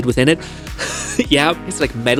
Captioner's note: laughs